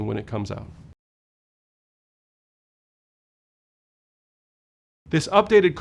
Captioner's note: no audio